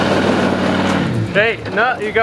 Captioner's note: engine revving